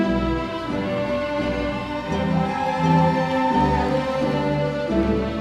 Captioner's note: audience cheering